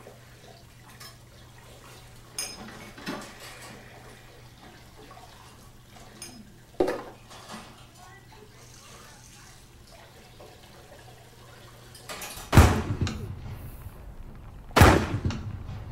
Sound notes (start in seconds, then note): 12.4 gun shot